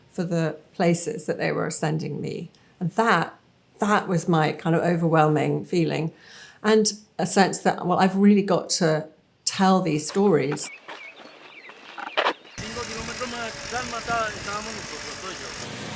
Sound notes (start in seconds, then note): 9.9 gravel crunching; 12.2 farmer speaking foreign language; 15.7 snowmobile engine running